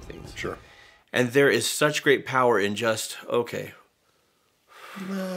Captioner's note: exhales